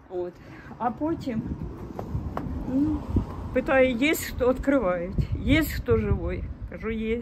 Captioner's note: in Russian